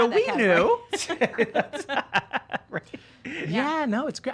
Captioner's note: laughing